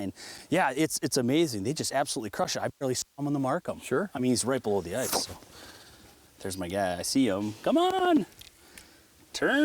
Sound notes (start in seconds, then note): 4.0 voiceover